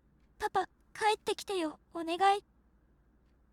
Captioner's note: crying